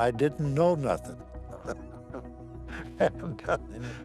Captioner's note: laughs